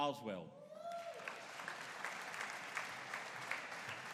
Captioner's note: audience cheering